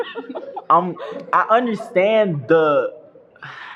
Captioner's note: laughter